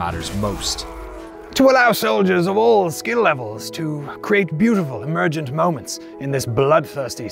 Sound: knightly voice

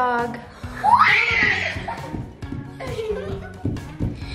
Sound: screams

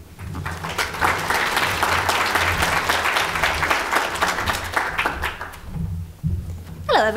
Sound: audience applause

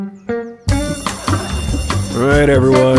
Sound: school bell rings

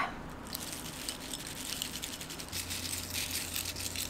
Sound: Corn Flakes rattling

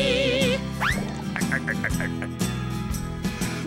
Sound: chuckling

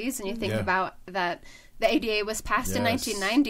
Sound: none

